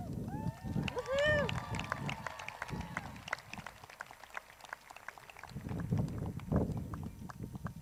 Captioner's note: crowd cheers